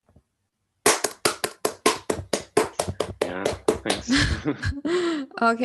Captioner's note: audience claps; laughs